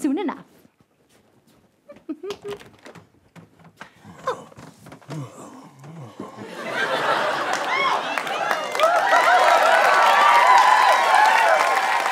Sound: giggles

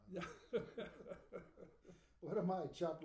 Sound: laughing

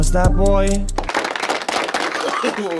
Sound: applaud

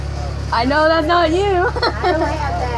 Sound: laughing

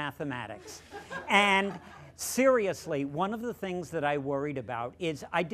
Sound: laughter

